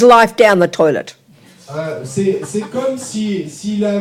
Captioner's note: speaking in French